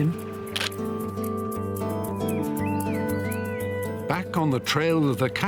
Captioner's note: gentle music; camera snapping